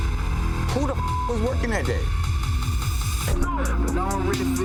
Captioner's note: beeps